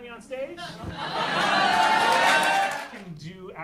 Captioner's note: audience cheering